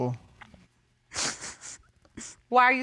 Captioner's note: wolf sniffles